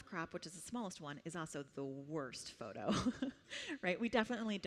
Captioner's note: laughs